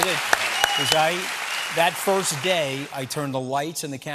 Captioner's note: applause